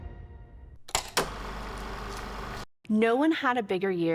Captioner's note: film reel flapping